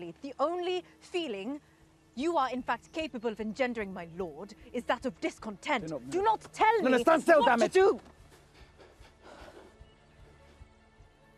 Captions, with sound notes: The only feeling you are, in fact, capable of engendering, my lord, is that of discontent. -Do not move. Stand still, damn it! -Do not tell me what to do! [Anthony panting]